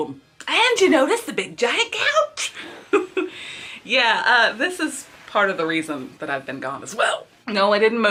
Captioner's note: laughs